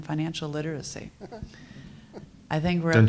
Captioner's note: chuckles